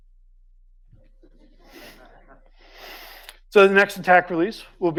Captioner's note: audience chuckles